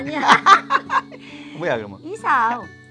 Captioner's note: both laughing